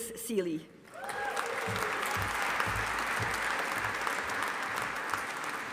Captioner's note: audience applauding